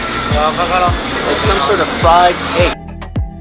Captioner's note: speaking in a foreign language